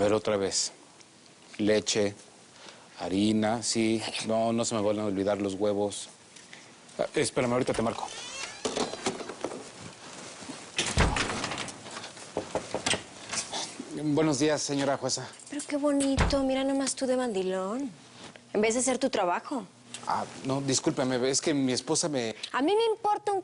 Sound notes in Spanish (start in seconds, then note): 8.0 Ruido al abrir; 10.8 Portazo; 12.4 Toques en la puerta